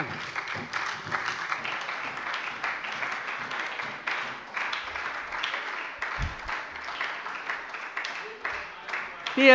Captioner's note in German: Beifall bei der SPD